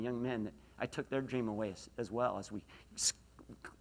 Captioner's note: none